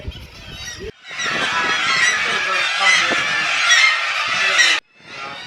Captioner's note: very loud bird noises